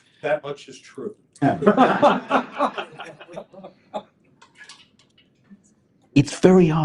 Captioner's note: laughter